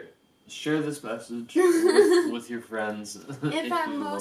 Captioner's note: laughs